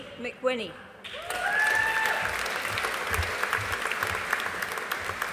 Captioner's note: audience applauding